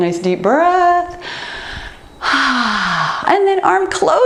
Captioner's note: exhales